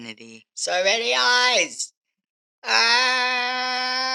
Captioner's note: yelling